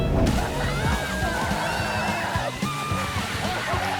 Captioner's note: group screaming